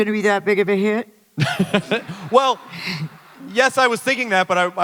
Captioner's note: chuckles